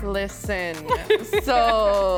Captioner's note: laughs